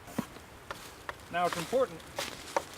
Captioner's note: wood tapping